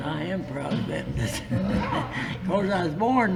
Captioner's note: laughs